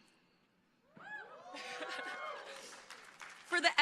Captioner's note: crowd cheering